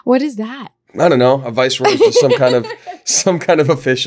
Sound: laughing

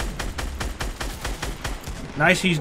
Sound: guns firing

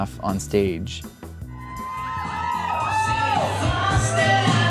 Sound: cheers and applause

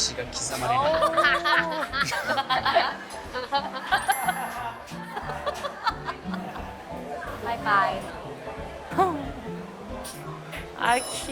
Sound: laughter

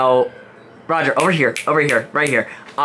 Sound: fingers snap

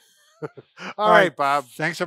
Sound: laughing

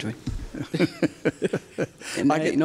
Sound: laughing

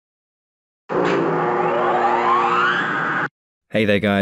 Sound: machine whirring

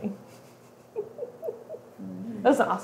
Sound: laughing

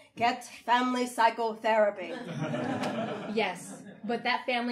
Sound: audience laughing

